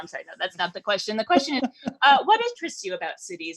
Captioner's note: laughing